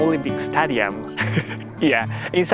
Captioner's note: chuckle